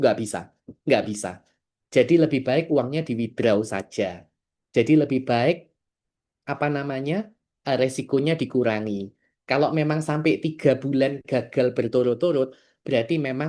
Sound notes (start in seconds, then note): none